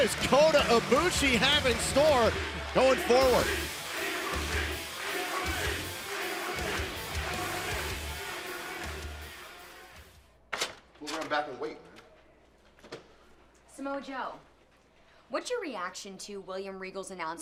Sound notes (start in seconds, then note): 6.7 fans chanting